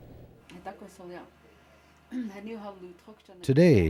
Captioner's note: speaking Lakota